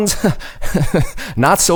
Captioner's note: chuckles